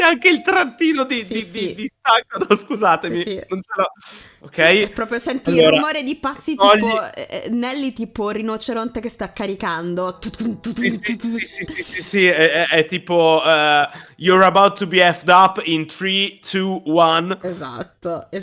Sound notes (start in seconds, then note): 11.4 imitates the sound